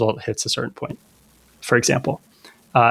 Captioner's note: uh